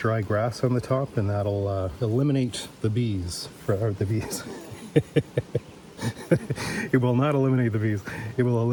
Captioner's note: laughs